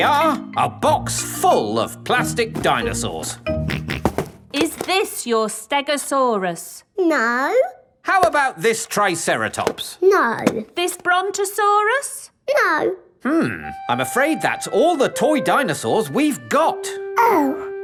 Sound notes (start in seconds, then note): 4.0 snorts